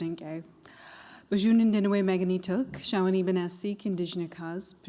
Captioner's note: non-english speech